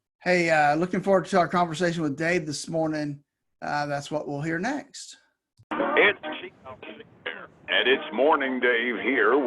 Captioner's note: static